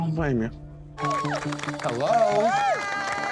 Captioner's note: crowd applauding